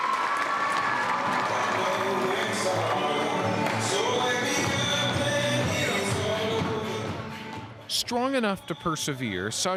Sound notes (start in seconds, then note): 2.1 applause